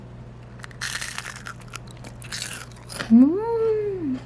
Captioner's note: crunchy sound